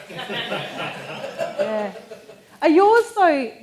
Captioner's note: audience laughing